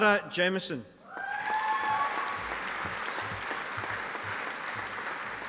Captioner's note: audience applauding